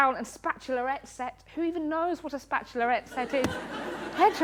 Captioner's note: laughter